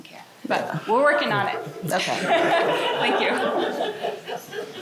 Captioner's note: laughter